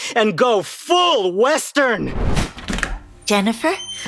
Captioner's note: flashback sound